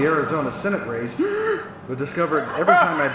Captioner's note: inhales loudly